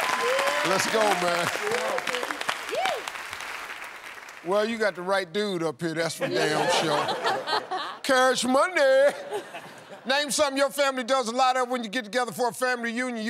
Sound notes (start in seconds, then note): 1.6 cheering